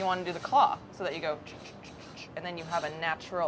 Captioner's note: rhythmically hums